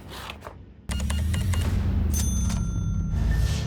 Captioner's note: cash register beeps, dings; foreboding music playing